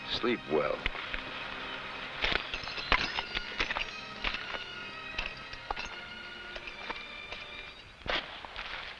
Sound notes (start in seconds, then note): 2.3 spurs rattling